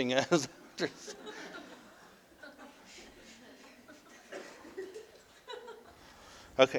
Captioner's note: audience: Laughter